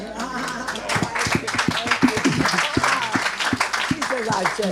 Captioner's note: audience applauding